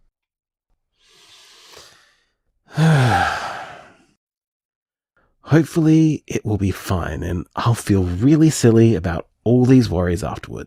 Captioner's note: sigh